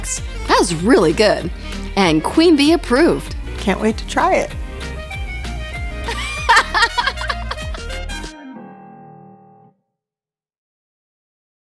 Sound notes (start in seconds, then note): 5.9 upbeat music; 6.0 laughing